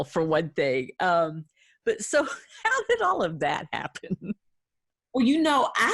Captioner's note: giggling